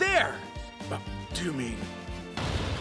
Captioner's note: gasp